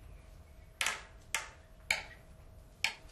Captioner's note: quiet clanging